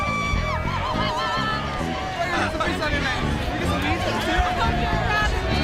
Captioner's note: crowd chattering and cheering